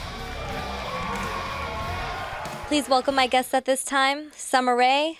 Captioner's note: crowd cheering